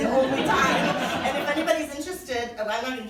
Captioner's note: laughing